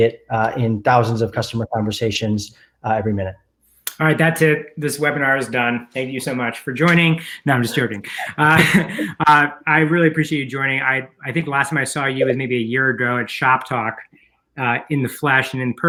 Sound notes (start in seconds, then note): 7.7 both chuckle